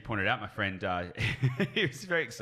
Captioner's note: laughs